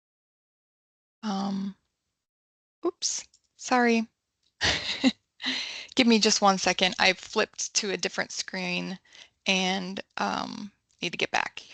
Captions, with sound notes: Um, oops. Sorry, [laughs] give me just one second. I flipped to a different screen and need to get back.